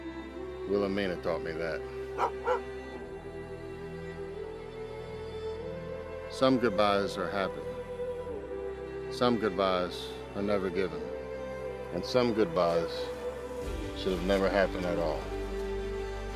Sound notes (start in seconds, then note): 2.1 Willamina barking; 4.3 gentle upbeat music; 16.1 gentle upbeat music